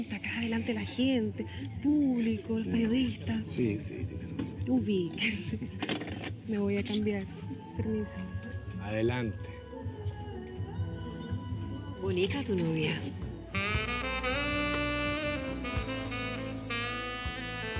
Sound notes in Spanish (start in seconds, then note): none